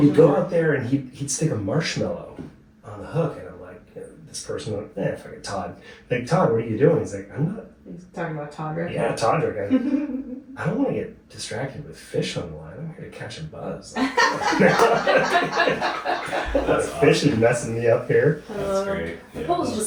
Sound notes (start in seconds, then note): 13.9 laughing